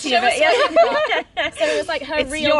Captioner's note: laughter